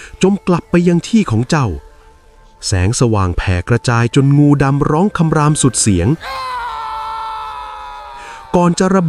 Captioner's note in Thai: เสียงกรีดร้อง